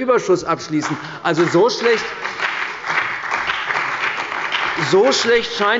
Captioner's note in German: Beifall bei der CDU und dem BÜNDNIS 90/DIE GRÜNEN